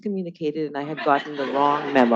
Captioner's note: attendees laughing